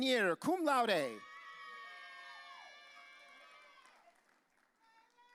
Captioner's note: audience cheering